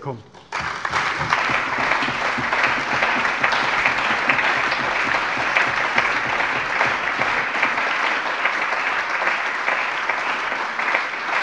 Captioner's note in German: Lebhafter allgemeiner Beifall